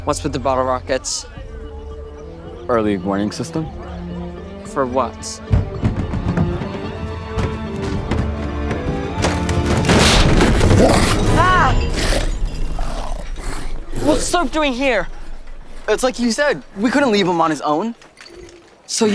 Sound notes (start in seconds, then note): 6.3 tense music; 9.9 yells